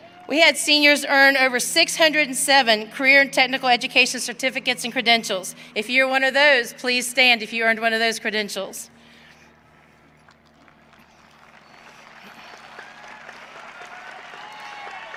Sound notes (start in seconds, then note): 9.2 audience cheering